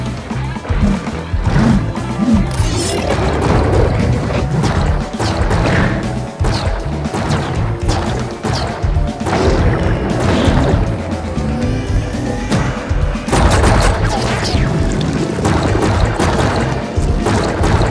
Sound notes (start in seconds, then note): none